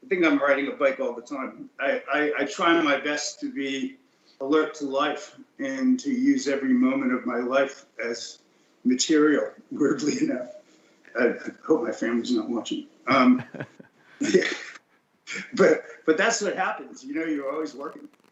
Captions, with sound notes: Rich talked about riding a bike, I think I am writing a bike all the time. am writing a bike all the time. I try my best to be alert to life, and use I try my best to be alert to life, and use every moment of my life as material weirdly enough. enough. I hope my family is not watching. I hope my family is not watching. (Laughs) That's what happens, you are always working.